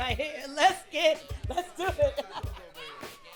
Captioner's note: laughs